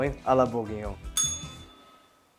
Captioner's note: bell rings